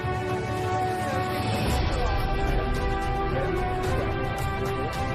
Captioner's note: chatter